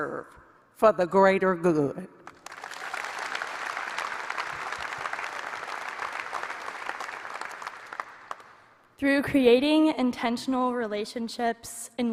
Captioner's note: applause